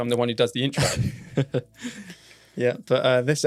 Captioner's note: laughs